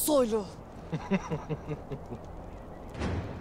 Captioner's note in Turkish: Gülme sesi